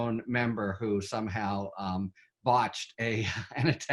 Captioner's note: chuckles